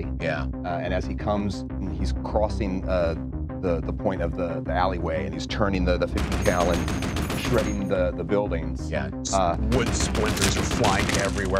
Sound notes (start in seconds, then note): 6.1 gun firing